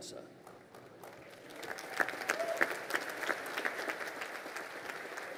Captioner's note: crowd applauding